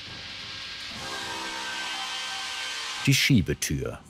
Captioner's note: sound of sawing